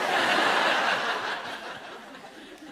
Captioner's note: laughter